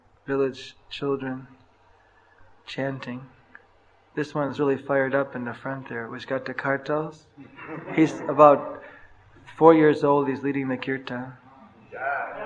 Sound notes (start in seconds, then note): 7.4 laughter